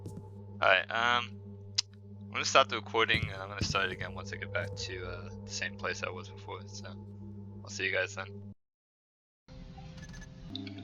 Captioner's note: clicks tongue